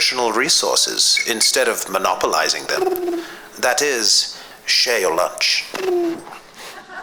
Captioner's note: two bird whistles; laughs